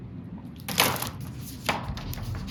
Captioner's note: book clatters; pages rustling